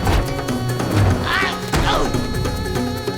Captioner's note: grunting